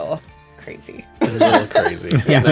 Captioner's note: laughter